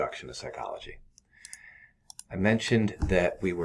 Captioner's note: mouse clicking